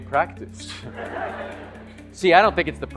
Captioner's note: audience laughs